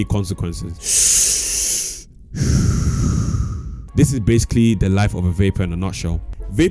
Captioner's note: smaking